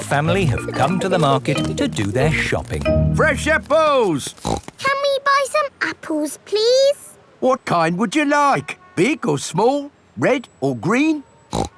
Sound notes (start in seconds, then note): 4.2 snorts